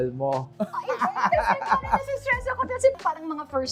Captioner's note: laughing